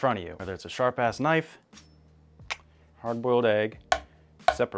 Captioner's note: kiss sound